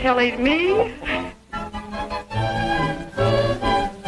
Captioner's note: both chuckling